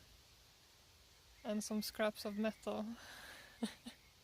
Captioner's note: giggles